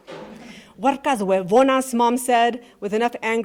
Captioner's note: speaking in Spanish